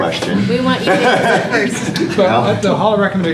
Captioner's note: laughter